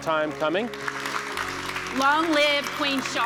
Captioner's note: audience applauding